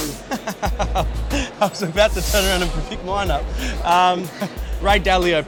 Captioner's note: laughs